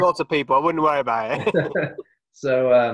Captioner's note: laughs